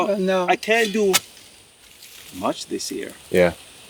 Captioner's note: shovel clinks